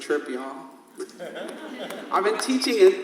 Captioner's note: audience laughs